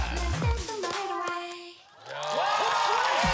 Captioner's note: applause